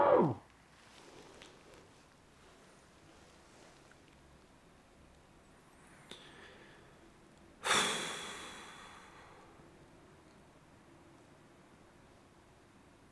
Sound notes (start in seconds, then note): 7.7 breathing